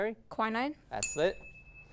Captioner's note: ding